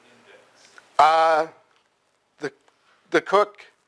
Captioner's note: pause